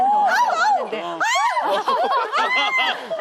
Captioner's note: scream